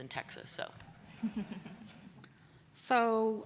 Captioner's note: laughter